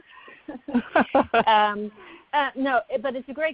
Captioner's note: laughter